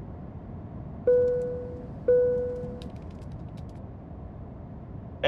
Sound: electronic dinging

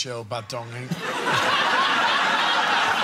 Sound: simultaneous repressed laughter

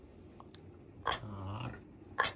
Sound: weird growl that I can't depict with text

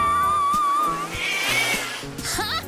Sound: meowing and hissing

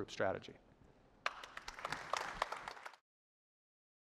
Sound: audience applauding

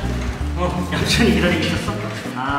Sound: haha

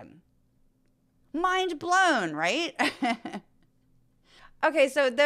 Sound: laugh

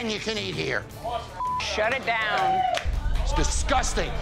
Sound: beep

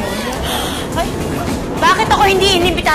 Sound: gasps

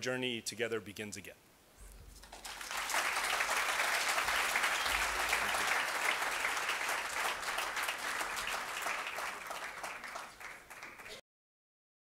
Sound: applause

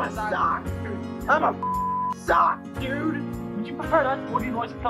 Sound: beep

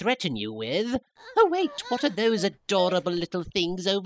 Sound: Young Namekians whimper

